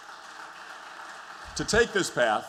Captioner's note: applause